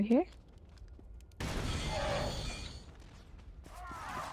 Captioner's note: gun firing